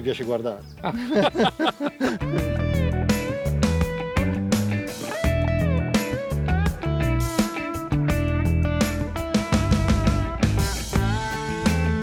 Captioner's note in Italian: Risate